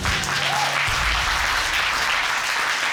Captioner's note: applause